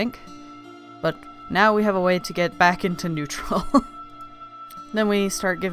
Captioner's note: laughing